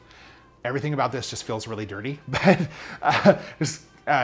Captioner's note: laughs